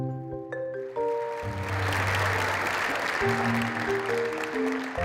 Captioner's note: applause